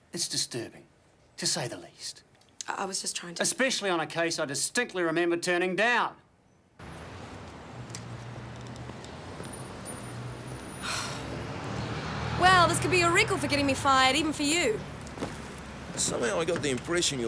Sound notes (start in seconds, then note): 8.4 vehicle engines revving; 10.8 Jodie sighs